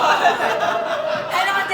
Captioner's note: audience Laughing